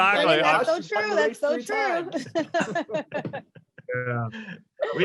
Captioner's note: laughs